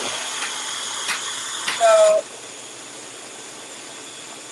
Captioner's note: blender whirling